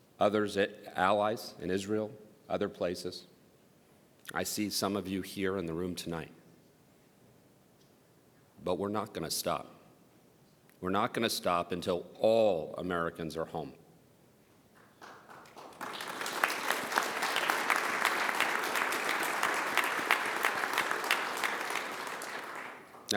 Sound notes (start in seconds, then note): 17.5 applause